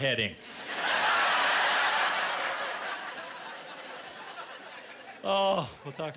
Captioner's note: laughter